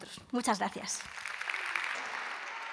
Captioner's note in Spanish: Aplausos